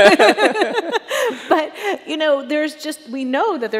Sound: chuckles

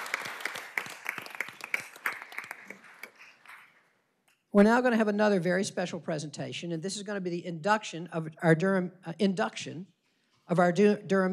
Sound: applause

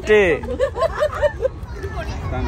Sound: laughing

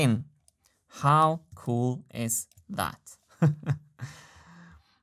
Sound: chuckles

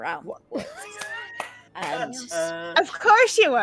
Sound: laughing

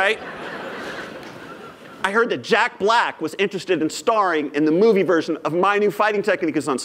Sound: laughter

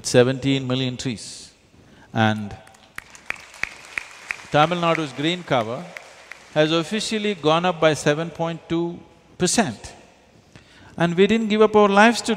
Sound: applause

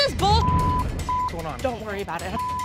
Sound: beep

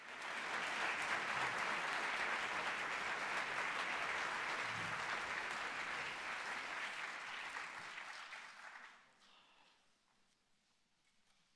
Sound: applause

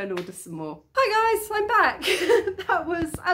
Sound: laughing

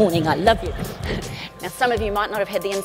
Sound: audience laughs

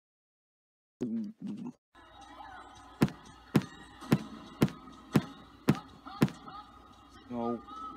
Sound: gulps & pops

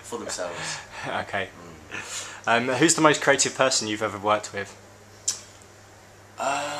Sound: laughs

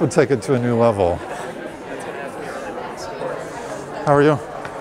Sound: chatter

